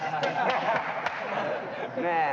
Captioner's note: crowd laughs